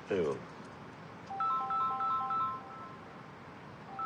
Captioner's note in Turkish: telefon çalar